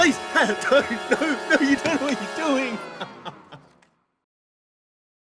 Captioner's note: sobs